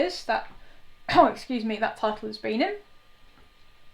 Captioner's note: coughs